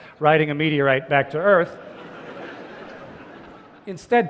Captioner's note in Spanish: Risas